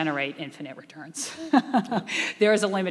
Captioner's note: laughing